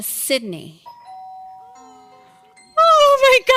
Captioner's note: doorbell dinging